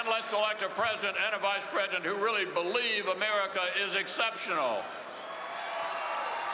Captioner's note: cheering and applause